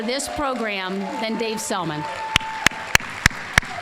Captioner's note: applause